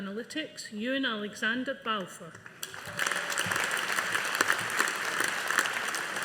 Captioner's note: audience applauding